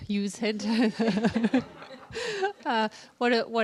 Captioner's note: laughter